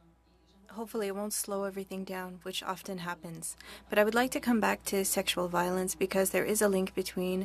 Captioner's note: speaking French